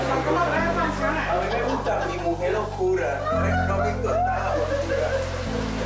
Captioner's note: laughs